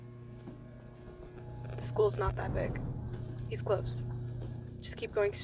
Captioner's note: over coms